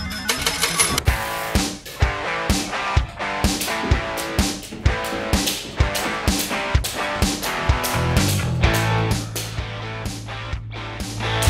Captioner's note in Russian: Звук вставляния монеты и выиграша Джекпота; Мотивационная музыка; Звук скакалки